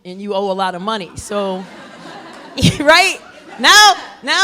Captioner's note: laughter